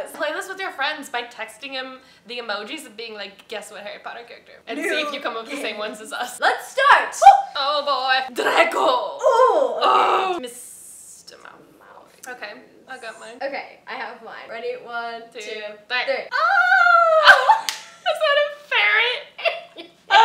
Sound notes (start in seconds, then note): 9.2 excitedly grunting; 16.4 squealing and laughter